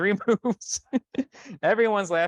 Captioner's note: laughs